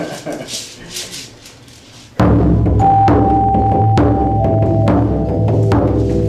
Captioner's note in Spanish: Risas